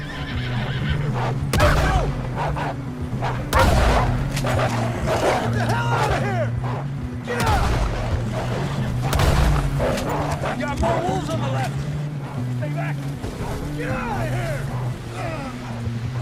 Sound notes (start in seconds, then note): 3.2 barking and shooting intensifies